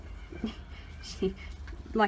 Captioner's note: laughs